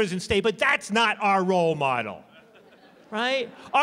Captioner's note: laughter